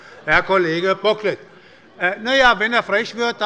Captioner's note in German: Zurufe von dem BÜNDNIS 90/DIE GRÜNEN und der CDU